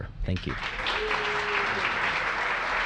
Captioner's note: applause